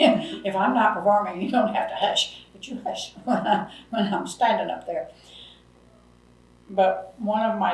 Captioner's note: laughs